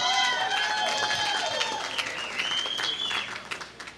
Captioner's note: applause